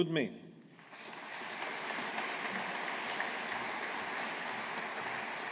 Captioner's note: audience applauding